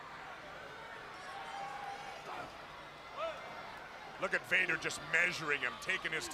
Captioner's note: crowd chatters